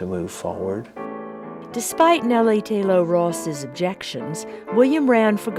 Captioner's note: voiceover